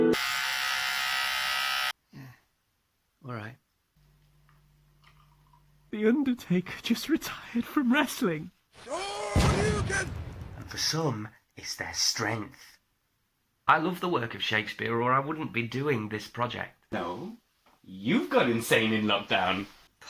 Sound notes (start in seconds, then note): 0.0 razor buzzing; 2.1 sigh; 8.8 explosion